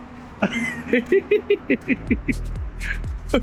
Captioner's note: laughing